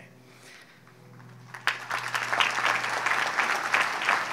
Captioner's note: audience applauds